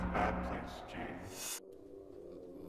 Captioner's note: whooshing